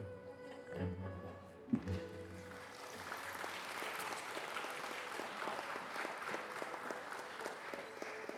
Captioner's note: soft music; audience applauding